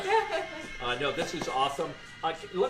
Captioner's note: laughter